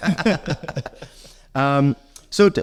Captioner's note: laughter